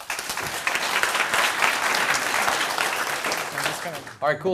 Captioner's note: applause